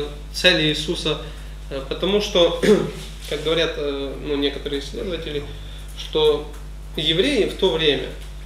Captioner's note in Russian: кашляет